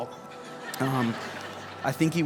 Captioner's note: congregation laughs